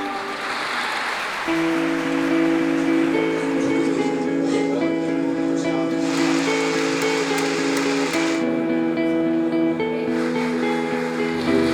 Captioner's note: clapping as nick arrives in various venues